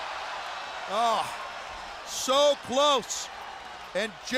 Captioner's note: crowd cheering